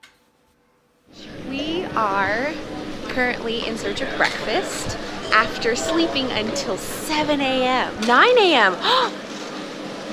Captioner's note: gasp